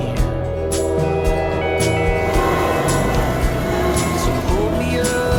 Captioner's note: train whistle blaring